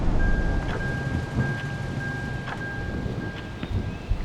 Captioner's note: car chimes; heavy rainfall